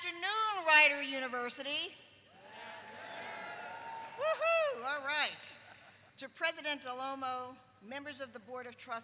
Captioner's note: crowd